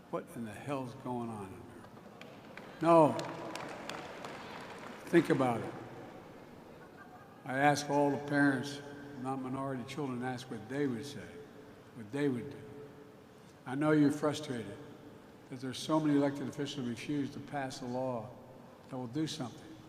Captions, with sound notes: What in the hell is going on in America? (Applause.) No, think about it. I ask all the parents of non-minority children to ask what they would say, what they would do. I know you're frustrated that there are so many elected officials who refuse to pass a law that will do something.